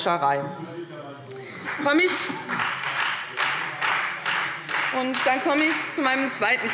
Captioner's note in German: Beifall Freie Demokraten